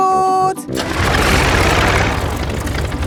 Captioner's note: plane engine starts